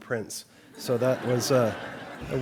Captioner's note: laughter